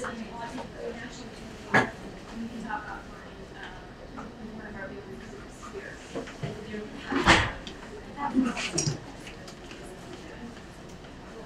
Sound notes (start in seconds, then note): 0.1 speaking away from mic; 6.4 speaking away from mic